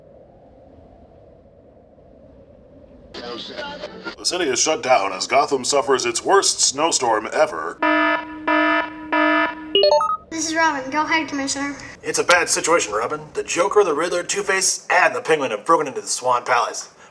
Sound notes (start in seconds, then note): 3.2 radio tuning; 7.8 alarm sounds; 12.1 over radio